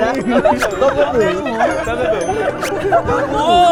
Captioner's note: speak so fast